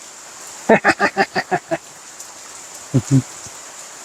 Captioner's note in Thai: เสียงหัวเราะ